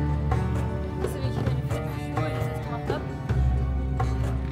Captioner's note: speaking German